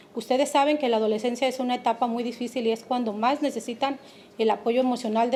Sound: speaking Spanish

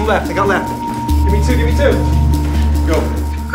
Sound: shouting

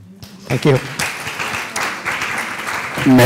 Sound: applause

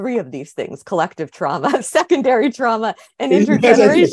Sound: chuckles

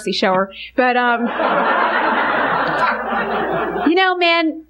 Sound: congregation laughing

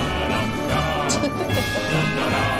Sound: ♫ jaunty adventure music ♫; laughter; ♫ jaunty adventure music ♫

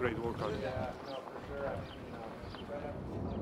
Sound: chatter

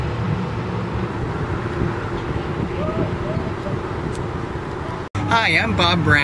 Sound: wind blowing

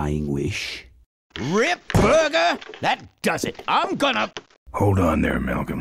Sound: slams the bar

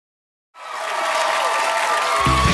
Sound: applause

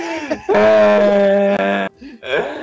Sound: long groan of death

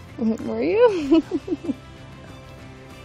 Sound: chuckles

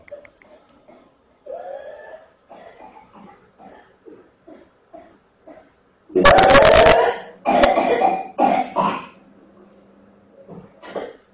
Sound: coughing

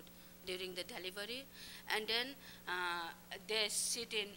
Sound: non-english speech

